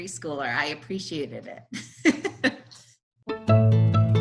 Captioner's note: chuckles